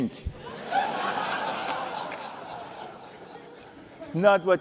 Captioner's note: laughter